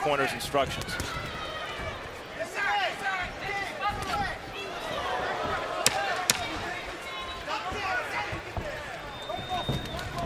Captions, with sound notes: As per his-- his corner's instructions. [loud tapping]